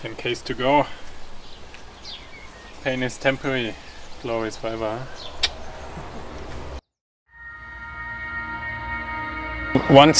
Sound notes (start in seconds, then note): 5.4 tongue clicking; 7.4 gentle music